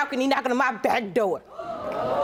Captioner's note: audience exclaims